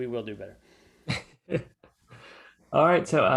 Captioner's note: laughs